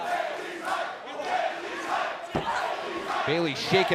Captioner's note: fans chanting